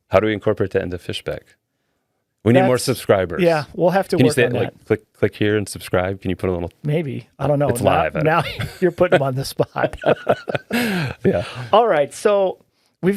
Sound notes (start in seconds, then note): 10.6 laughing